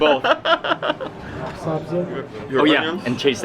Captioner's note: laughing